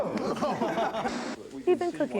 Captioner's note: laughter; static noise